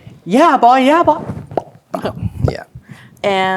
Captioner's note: pops